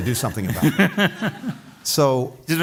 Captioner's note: laughter